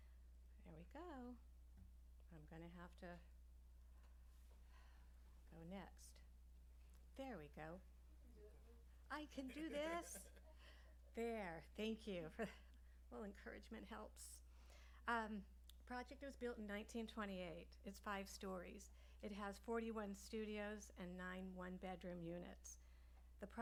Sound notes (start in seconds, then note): 9.2 laughs